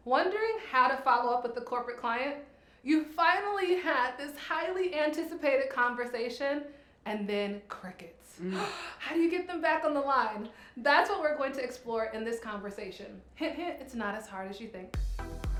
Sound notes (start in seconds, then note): 8.4 gasps; 14.9 upbeat music